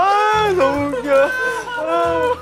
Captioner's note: never-ending laughs